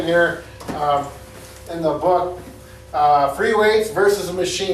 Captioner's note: book thudding